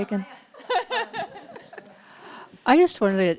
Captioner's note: laughs